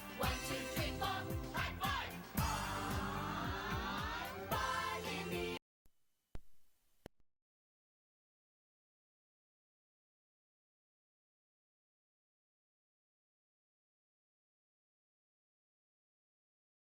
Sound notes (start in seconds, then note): 5.9 cuts to silence